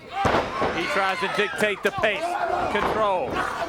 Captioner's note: crowd chatter